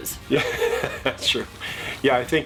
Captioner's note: laughs